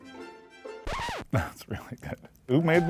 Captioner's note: record scratch; canned cheering